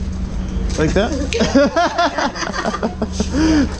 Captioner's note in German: Gelächter